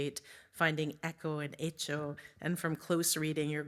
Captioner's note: speaks in Spanish